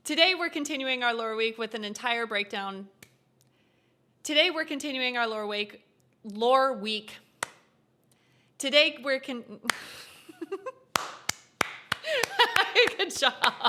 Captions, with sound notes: Today we're continuing our lore week with an entire breakdown- Today we're continuing our lore week- Lore week. [claps] Today we're con- [laughs and claps] Good job!